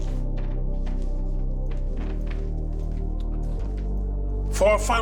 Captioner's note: floor squeaking